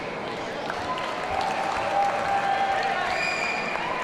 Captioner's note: audience cheering